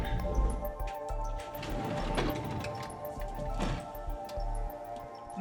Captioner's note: heavy drawer opening